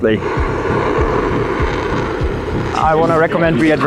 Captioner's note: engine roaring